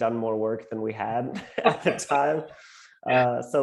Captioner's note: laughs